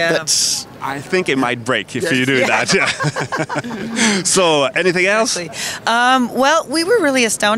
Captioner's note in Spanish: Risas